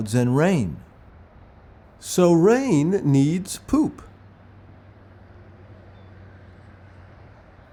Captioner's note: birds chirping